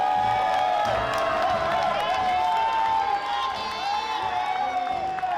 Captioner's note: applause; cheering